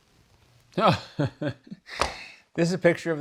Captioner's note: laughs